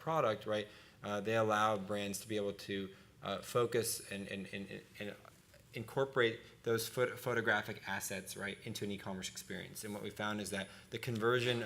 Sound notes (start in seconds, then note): none